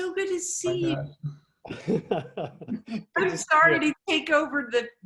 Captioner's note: laughing